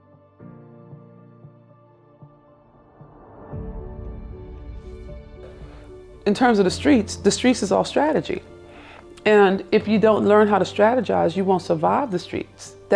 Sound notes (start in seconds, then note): none